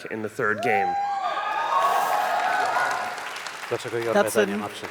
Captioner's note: cheers